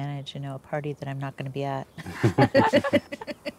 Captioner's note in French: rires de tous